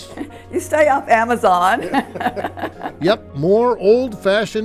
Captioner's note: laughs